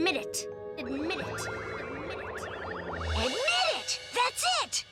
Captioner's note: Lizbeth echoing